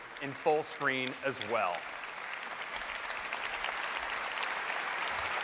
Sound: applause

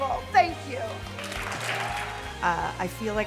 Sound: cheers and applause

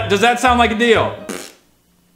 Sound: farting noise

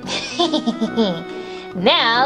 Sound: laughs maniacally

